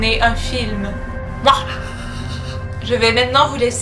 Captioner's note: evil laugh